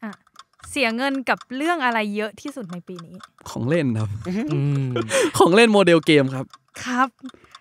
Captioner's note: laugh